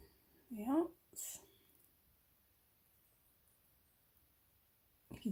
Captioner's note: quietly almost to myself whilst concentrating